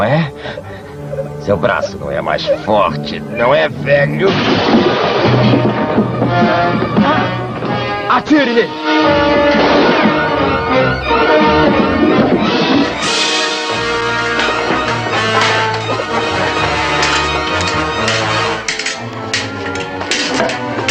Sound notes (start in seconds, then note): 16.5 swords clashing